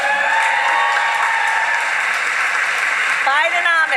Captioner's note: applause